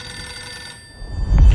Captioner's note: phone ringing